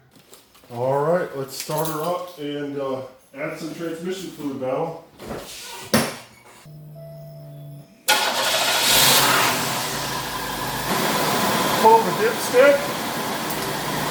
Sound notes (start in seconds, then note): 8.0 engine starts; 13.0 engine idling